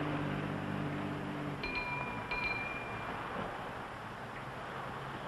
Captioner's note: bell dings